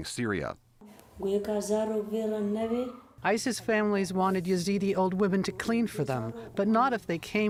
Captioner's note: through translator